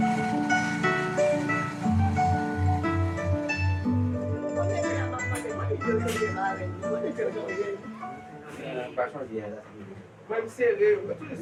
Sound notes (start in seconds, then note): 2.6 bright music; 5.9 people speaking in Creole